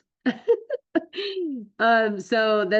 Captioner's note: laughs